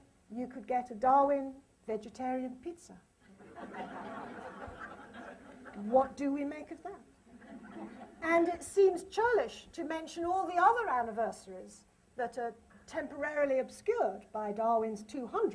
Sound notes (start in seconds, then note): 3.3 laughter